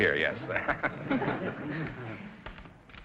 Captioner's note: audience laughter; laughing